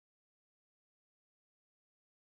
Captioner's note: none